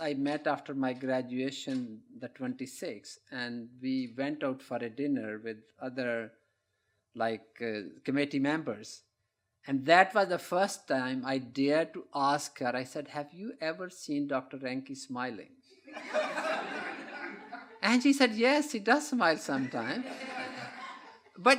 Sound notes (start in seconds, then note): 15.8 laughter